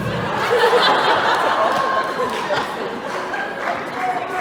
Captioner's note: laughing